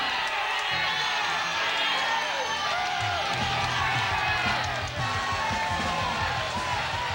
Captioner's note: crowd cheering; intense rock music